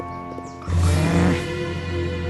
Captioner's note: growl